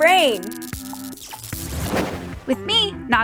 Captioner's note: static crackling